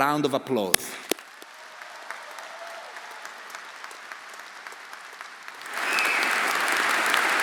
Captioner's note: audience applauding; audience cheering